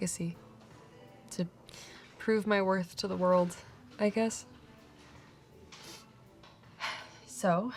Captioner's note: sighs